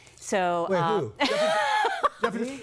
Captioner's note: laughing